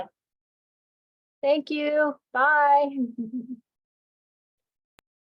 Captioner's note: laughing